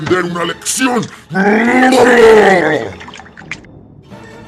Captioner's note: guttural scream